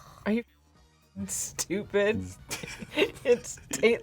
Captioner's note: both laugh